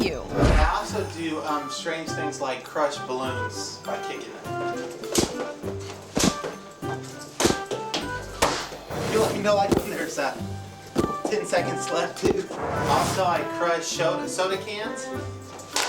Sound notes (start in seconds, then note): 5.0 feet thumping